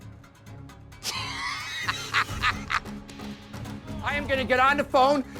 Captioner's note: laughs